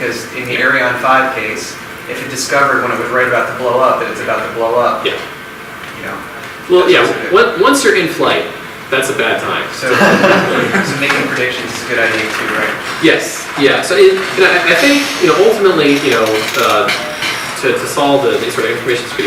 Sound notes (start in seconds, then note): 9.8 audience laughs